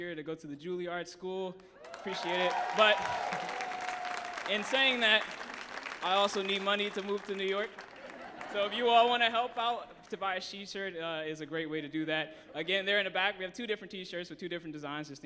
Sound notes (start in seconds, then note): 2.3 audience applauds and cheers; 6.8 audience laughs